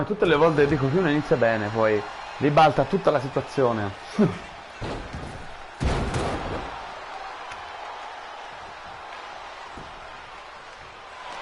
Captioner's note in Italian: Applauso